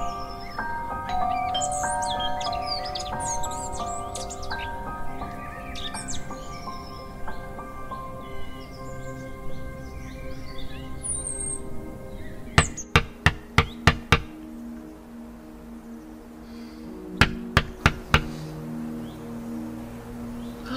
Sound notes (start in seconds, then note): 1.1 doorbell ringing; 4.6 birds chirping; 12.9 knocking on window; 17.2 knocking on window